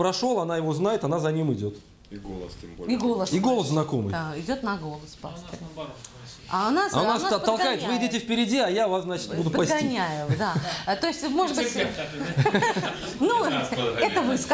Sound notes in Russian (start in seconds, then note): 11.7 смех